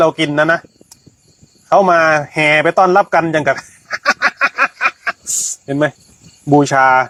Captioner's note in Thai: เสียงหัวเราะ